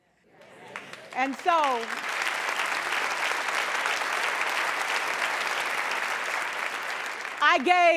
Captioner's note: applause